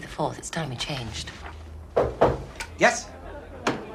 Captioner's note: knocking